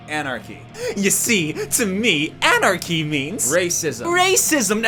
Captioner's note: excited inhale